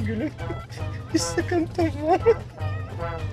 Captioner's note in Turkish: Gülme sesi